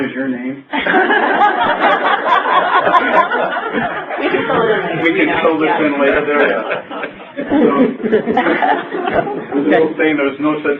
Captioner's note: laughter and crosstalk